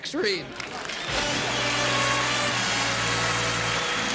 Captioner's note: applause